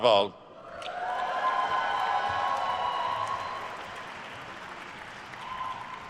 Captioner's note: attendees cheering and applauding